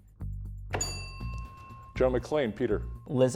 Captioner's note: bell dinging